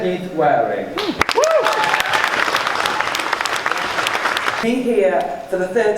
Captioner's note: cheering and applause